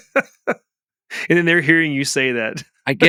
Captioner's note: laughs